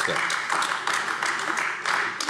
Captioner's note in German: Beifall AfD